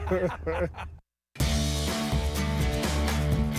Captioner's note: laughter